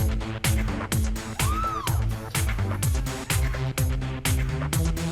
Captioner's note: cheers